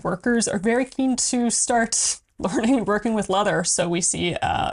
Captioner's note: laughs